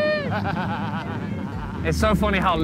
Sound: laughing

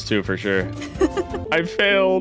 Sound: laughing

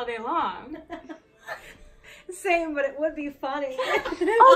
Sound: laughing

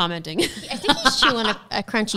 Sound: laughs

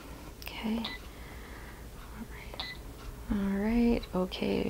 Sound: machine beeping

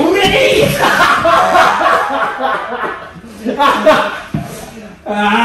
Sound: laughs

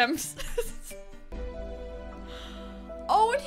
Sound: giggles

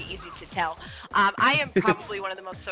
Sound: laugh

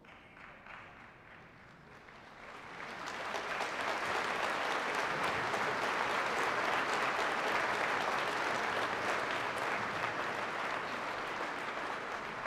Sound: applause

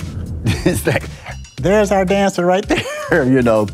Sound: laughing

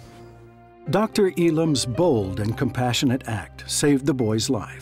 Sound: voiceover

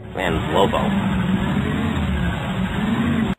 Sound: motorcycle engine roaring

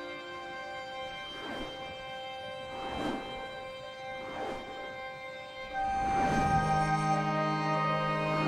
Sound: swooshing

